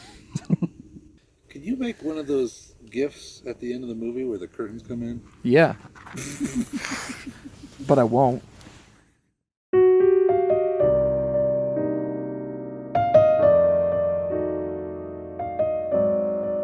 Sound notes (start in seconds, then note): 0.1 laughing; 6.1 laughing; 9.7 slow piano music